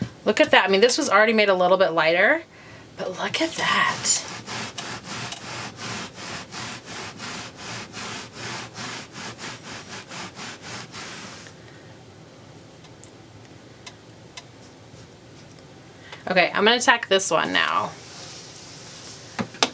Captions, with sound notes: Look at that, I mean, this was already made a little bit lighter, but look at that. (tool scraping) Okay, I'm gonna attack this one now.